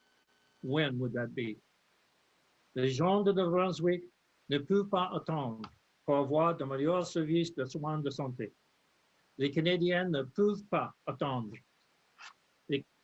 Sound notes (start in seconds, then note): 3.9 speaks French